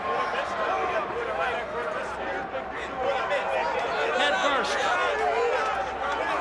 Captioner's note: crowd chatter